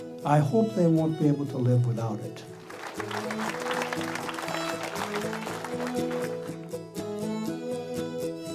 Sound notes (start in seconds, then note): 2.5 audience applauding; 2.7 gentle music